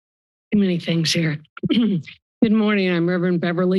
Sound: clears throat

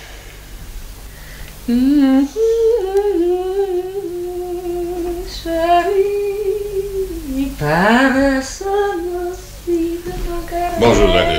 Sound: humming a tune

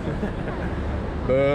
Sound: laughs

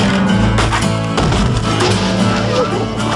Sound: growling

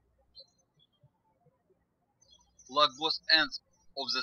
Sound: birds chirping

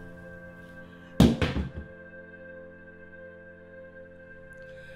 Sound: phone clunks

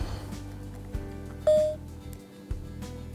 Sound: device beeps once

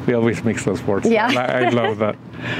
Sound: laughs

